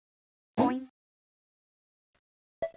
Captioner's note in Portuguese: Boing